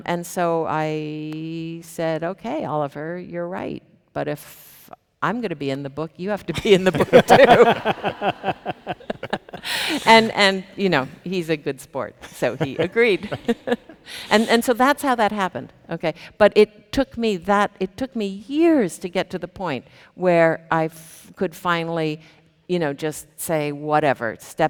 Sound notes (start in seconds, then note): 8.1 people laughing; 13.6 chuckles